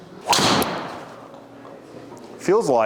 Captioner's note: golf club whacks